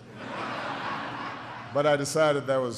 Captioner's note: laughter